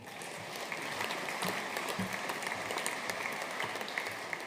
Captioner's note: audience applauding